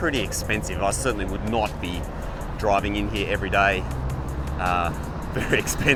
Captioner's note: laughs